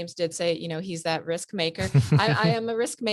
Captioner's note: laughs